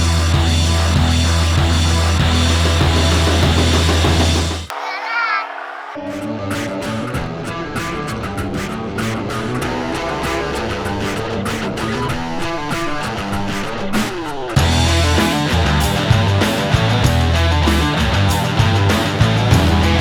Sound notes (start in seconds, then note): 0.0 hard rock music; 6.3 engines revving